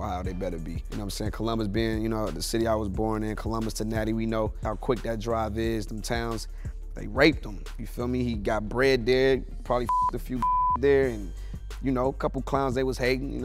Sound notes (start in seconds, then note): 10.3 beep